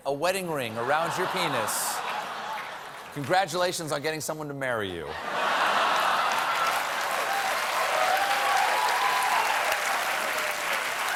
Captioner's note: applause; laughter